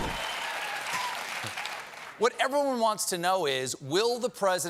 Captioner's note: cheers and applause